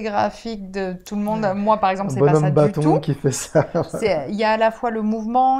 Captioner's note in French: rire